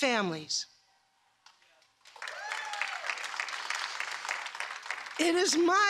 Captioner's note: applause